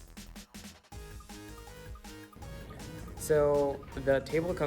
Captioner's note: video game chiming